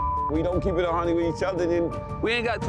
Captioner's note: beep